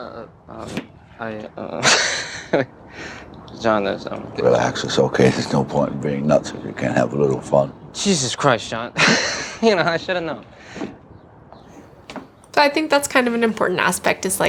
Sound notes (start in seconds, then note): 1.7 laughs; 9.2 laughs